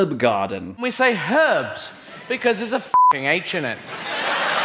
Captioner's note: beep; audience laughs